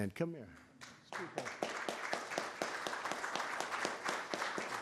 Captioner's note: applause